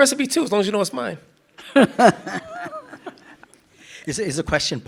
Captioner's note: participants laughing